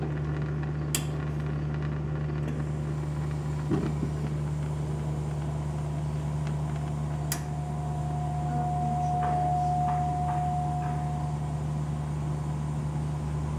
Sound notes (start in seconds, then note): 2.5 faint roaring; 7.7 faint air hissing